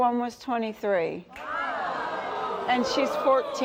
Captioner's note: in Unison